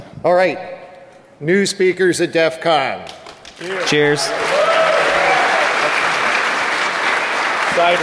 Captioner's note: applause